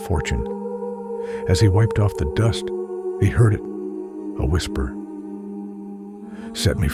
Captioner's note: a whisper